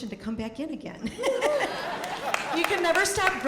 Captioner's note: audience laughing